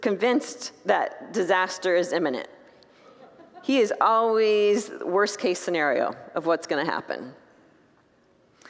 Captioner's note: congregants laugh